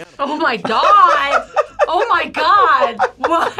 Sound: laughs

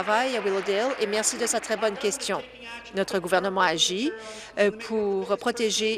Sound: applause

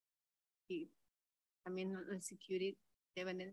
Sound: speaks in Spanish

